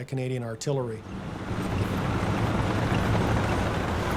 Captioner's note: tanks roaring